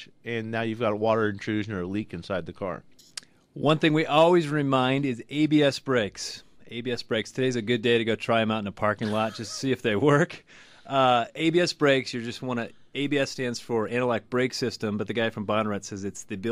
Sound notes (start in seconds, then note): 9.0 both laugh